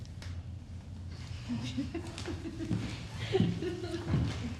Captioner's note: class giggling